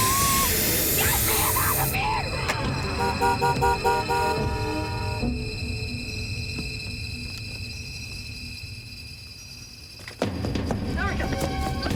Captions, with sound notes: Get me out of here! (horn honking wildly) - Erica!